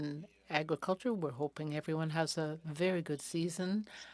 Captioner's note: speaking French